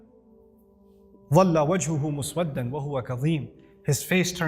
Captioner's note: Arabic